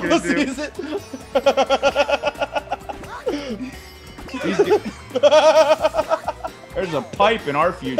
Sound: laugh

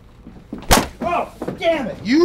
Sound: clunking

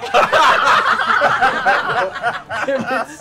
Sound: laughter

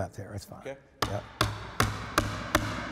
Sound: hammering

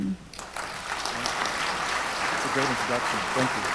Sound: audience applauds

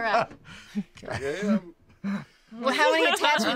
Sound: group laughter

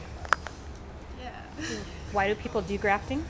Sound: laughs

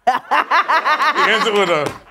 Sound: laughing

